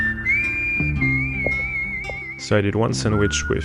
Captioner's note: whistles